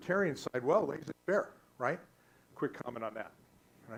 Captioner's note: static